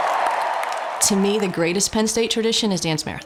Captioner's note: cheering